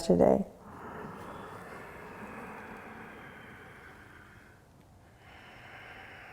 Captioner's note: deep breathing